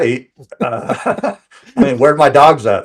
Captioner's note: laughing